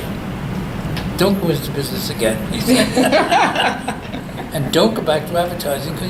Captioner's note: all laugh